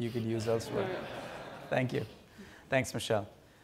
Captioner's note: laughter